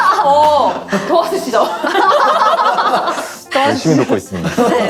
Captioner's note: laughs